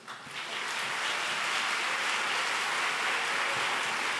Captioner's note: audience applauds